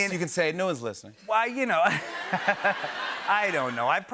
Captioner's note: laughter